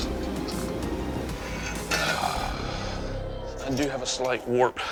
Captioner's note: sighs